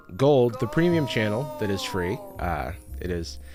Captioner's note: disembodied voice